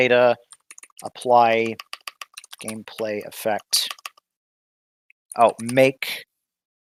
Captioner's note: typing